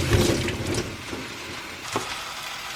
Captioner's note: shaking water off